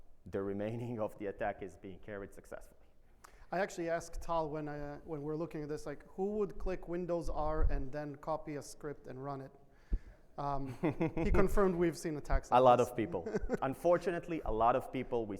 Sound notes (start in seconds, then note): 12.8 laughs